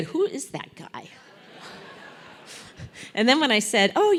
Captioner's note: laugh